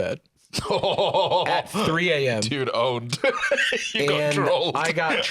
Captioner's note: laughing